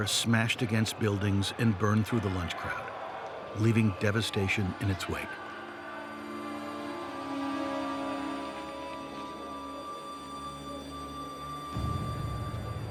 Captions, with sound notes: Fire-packed air smashed against buildings and burned through the lunch crowd, leaving devastation in its wake. (distant shouting)